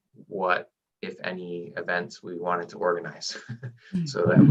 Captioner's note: chuckles